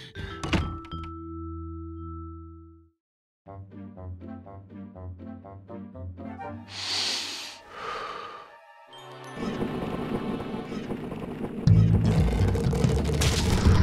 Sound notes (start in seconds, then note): 6.7 inhales, exhales; 9.7 grating noise; 11.7 loud bass music